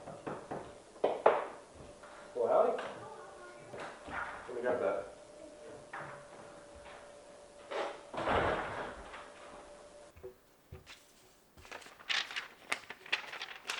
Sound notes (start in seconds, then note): 4.1 door closes and opens; 7.6 door closes